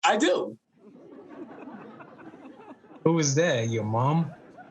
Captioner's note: audience laughing